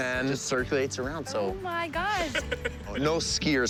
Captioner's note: laughs